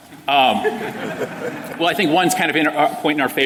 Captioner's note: laughter